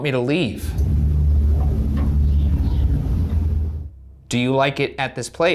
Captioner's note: light knocking